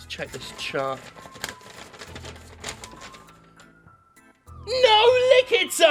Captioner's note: paper crumpling